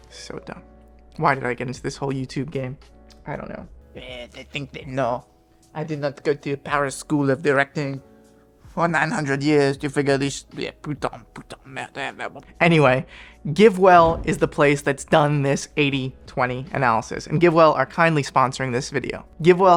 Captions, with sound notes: So dumb. Why did I get into this whole YouTube game? I don't know. Eh, they think they, no, I did not go to Paris School of Directing for 900 years to figure this (speaks French). Anyway, GiveWell is the place that's done this 80/20 analysis, and GiveWell are kindly sponsoring this video.